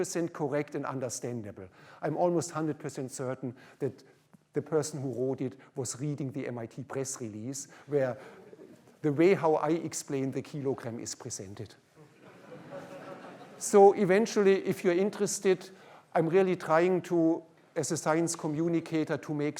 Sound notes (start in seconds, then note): 12.0 laughter